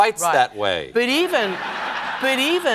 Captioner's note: laughter